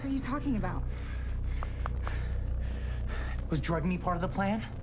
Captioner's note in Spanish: Respirando profundamente